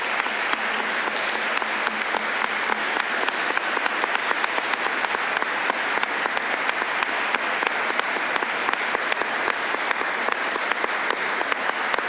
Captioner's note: applause